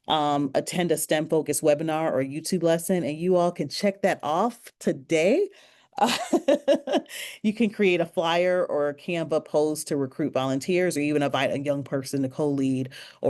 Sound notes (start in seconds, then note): 6.7 laughs